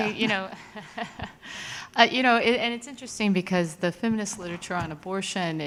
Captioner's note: laughs